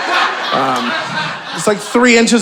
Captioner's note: audience laughing